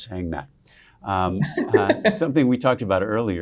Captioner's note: laughing